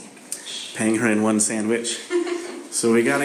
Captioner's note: laughs